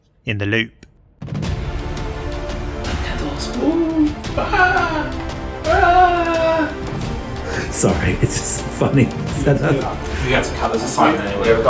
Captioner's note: music and Crew noises